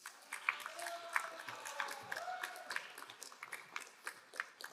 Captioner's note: crowd applauding